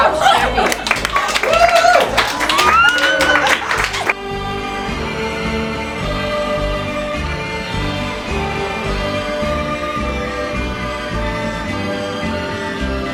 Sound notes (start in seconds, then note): 0.0 squeals of joy; 0.4 applause